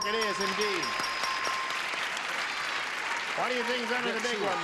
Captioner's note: clapping